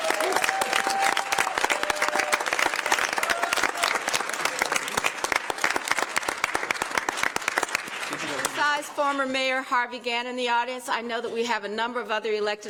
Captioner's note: applause